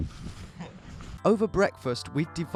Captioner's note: laughing